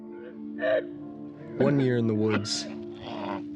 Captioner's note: Dave coughing